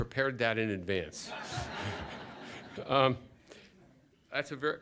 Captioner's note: laughter